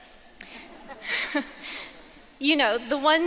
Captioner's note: audience laughing